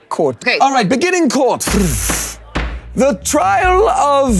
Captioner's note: gavel thwacking